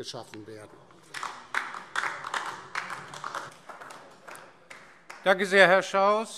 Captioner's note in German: Beifall DIE LINKE